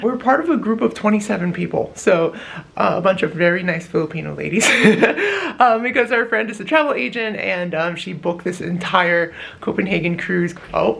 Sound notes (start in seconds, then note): 4.6 lols